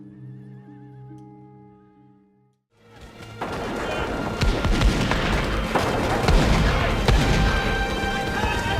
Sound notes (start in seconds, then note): 2.8 dramatic music; 3.4 guns firing